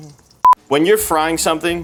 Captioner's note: note beeps